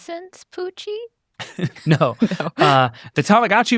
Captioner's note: chuckles